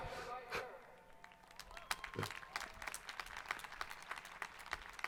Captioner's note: audience applauding